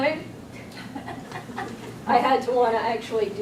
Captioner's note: audience chuckling